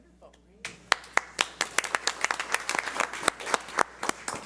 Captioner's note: audience applauds